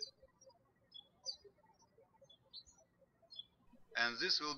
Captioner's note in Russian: птички щебечут